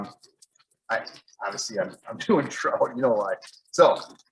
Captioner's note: laughs